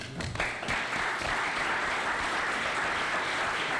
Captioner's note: applause